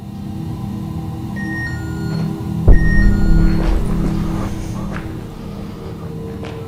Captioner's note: The Rempod sounds affirming